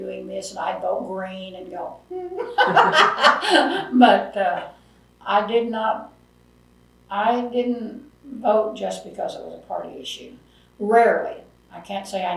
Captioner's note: laughs